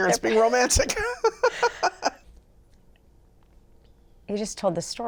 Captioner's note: both laugh